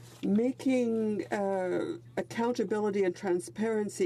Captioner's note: speaking French